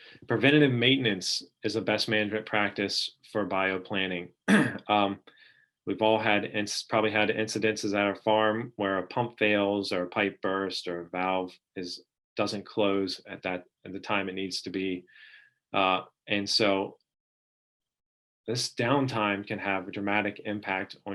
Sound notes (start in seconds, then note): 4.4 clearing throat